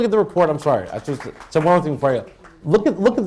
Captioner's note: applause